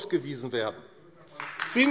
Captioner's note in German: Beifall AfD